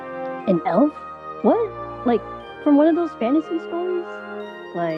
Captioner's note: muffled through the door